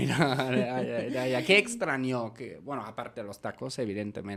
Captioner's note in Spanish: risas